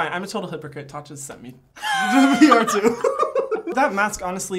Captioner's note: laughing